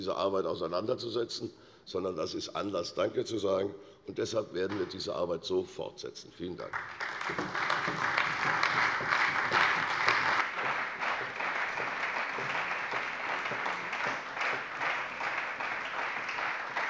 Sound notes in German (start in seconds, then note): 7.6 Beifall bei der CDU und dem BÜNDNIS 90/DIE GRÜNEN